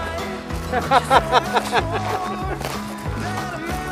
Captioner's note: laughing